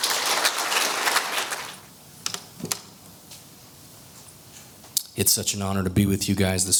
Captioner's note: applause